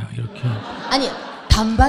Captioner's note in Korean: 청중 웃음